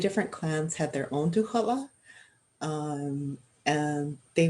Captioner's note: speaking Indigenous language